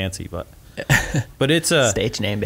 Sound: laughs

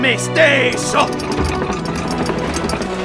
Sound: Leo in Italian; rattling; garage door creaks

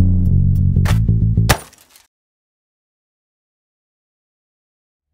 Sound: funky music; glass breaking

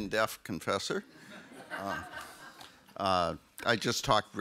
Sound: audience laughs

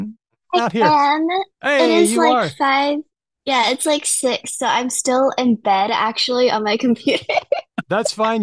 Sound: laughs

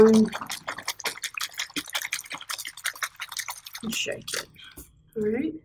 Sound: shaking bottle

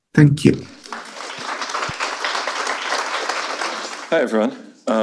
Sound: audience applauding

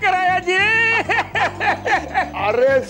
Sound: laughs

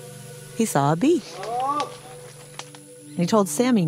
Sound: buzz!

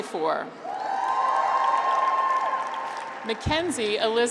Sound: graduates cheer

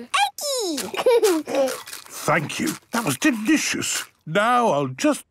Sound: laughing, crunching

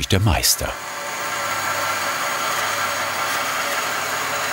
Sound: machine noise

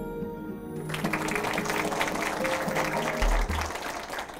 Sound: applause

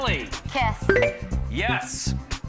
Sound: bell chimes

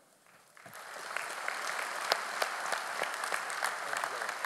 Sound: audience applauding

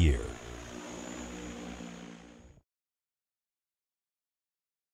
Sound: sound of drone engines buzzing fades away

